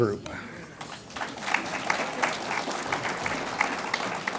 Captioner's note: audience applauds